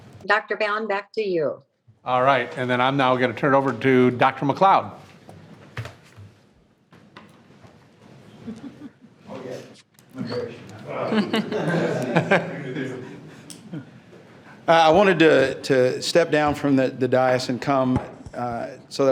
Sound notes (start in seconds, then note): 10.8 people laughing